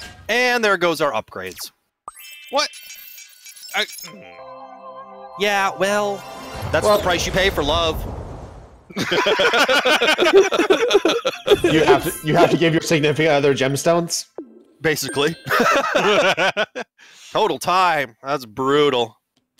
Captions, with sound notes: And there goes our upgrades! What? I... Yeah, well... That's the price you pay for love... *group laughter* You have to give your significant other gemstones? Basically... *laughter* Total time, that's brutal!